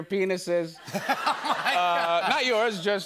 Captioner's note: laughing